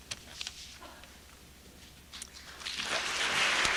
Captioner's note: applause